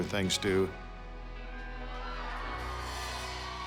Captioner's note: crowd cheers